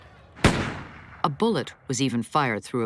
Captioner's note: gun fires, glass shatters